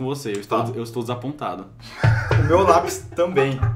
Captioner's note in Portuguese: Risos de fundo